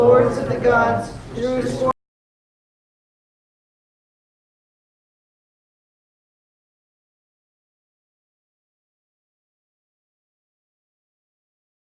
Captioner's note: no sound